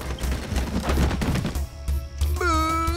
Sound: thudding

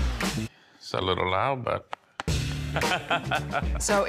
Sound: laughing

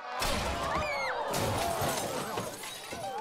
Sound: table cracks. Glass breaks

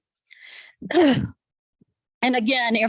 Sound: clears throat

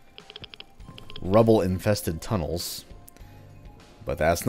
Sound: Gasbags idling

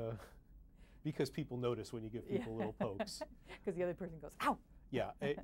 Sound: laughs

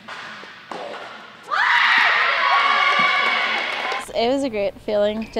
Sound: cheering

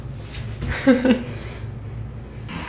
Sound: Hila laughing

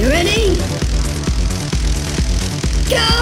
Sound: crackling electricity

